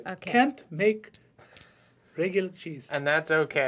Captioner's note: exotic accent